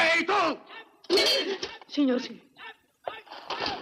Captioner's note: gasps